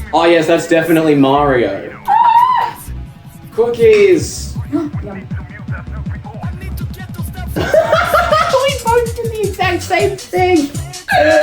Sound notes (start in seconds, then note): 4.7 gasps; 7.5 laughs hysterically; 11.2 long wheeze